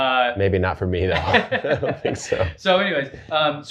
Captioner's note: both laughing